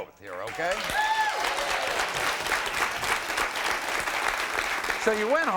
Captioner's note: applauding; crowd cheering